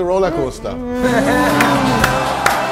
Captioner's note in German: Lachen; Applaus, Jubel